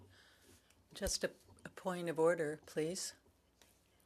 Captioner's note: speaking French